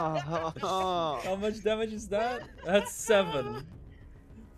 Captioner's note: laughs